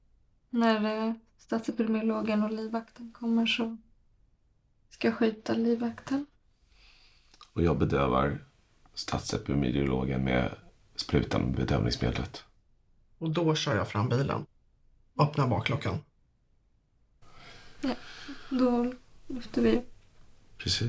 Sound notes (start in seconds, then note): none